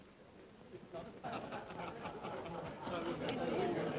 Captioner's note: men chuckle